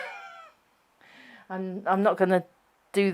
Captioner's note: chuckling